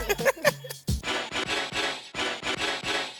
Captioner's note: both laugh; upbeat music